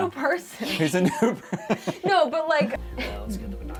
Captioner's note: laughter